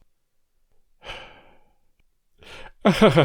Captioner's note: sigh